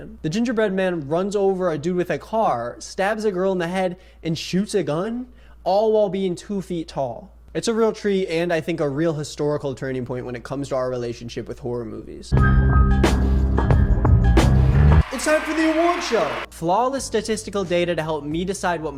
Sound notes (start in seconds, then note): 13.9 haunting jazz music; 14.6 audience cheers